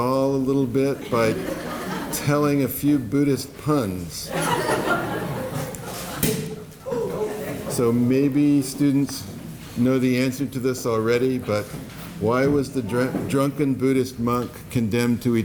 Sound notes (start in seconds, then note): 4.3 laughter